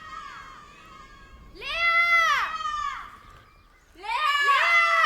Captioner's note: group of girls calling Lea out loud